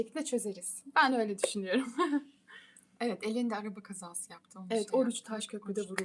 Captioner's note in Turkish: kahkaha